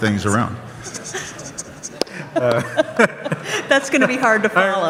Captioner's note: audience laughs